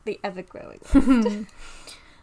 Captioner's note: laughing